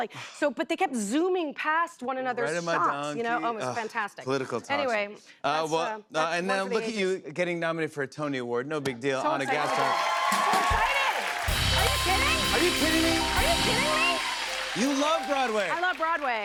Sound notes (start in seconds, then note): 8.6 cheers and applause